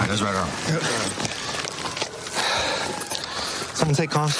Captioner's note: sirens blaring